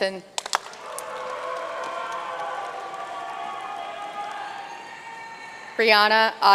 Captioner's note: audience cheering and applauding